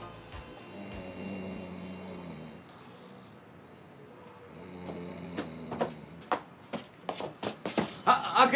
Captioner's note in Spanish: Ronquidos